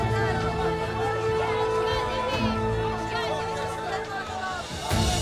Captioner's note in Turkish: Kalabalık konuşma sesleri